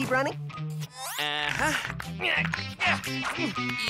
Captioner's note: stretching grunts